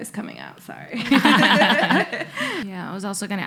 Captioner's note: laughing